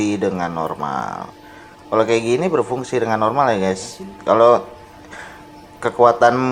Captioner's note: Arabic